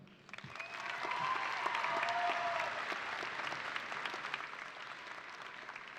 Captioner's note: audience applauding and cheering